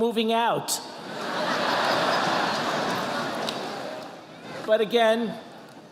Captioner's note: audience laughing